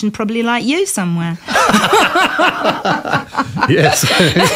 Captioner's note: laughter